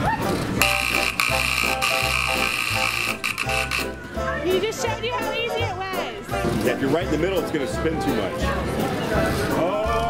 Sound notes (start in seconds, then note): 0.6 buzzing